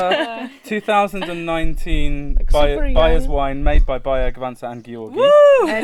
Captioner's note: cheering